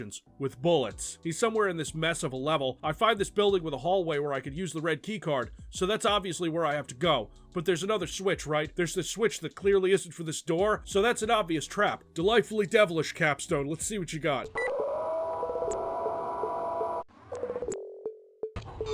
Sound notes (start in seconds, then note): 14.5 siren...or maybe just whirring? these SFX are a mess; 17.1 more awful 90's beat loop aural assault